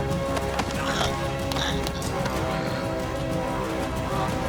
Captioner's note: choking